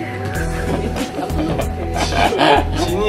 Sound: laughing

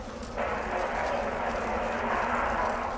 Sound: monster growling in distance

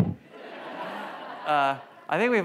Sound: audience laughs

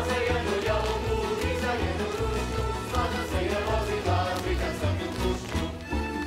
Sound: choir singing; performers slapping

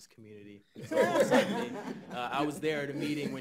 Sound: laughing

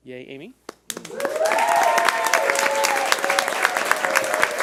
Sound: audience applauding

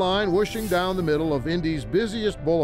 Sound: graphic whooshes

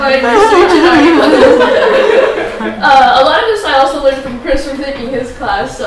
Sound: chuckles

